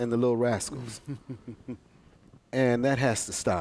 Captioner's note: laughter